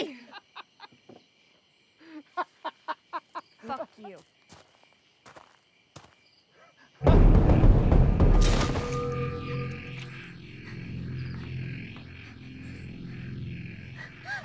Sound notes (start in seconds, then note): 0.2 continues laughing; 4.1 footsteps approaching